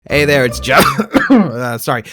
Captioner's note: coughing